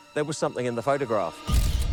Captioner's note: suspenseful music; camera shutter clicks